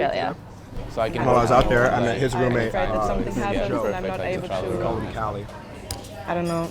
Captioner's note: people chattering